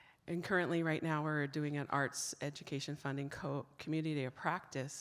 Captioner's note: none